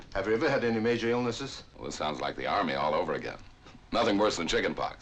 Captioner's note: none